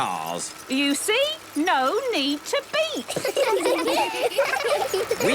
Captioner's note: laughter